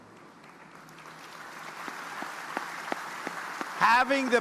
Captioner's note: audience applauding